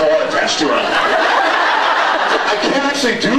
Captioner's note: laughs; scattered laughs